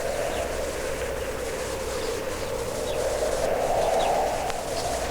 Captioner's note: wind howling; birds chirping